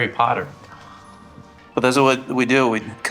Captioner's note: gasping